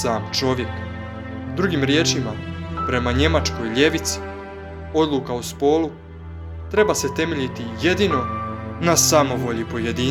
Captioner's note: German